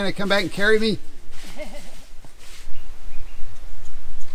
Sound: laughs; birds tweeting

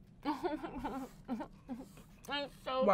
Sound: sobs?

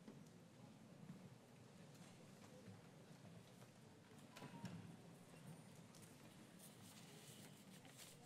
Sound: none

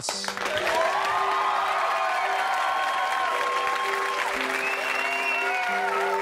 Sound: audience cheering and applauding

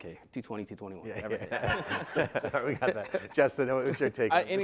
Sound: laughter

